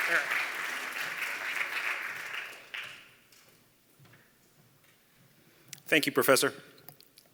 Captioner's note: applause